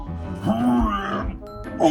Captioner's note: laughing